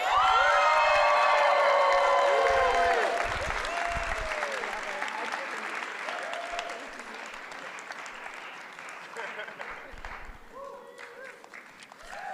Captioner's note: applause